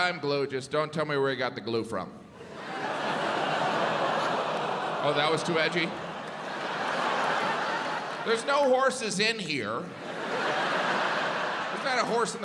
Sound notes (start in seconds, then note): 2.4 audience laughs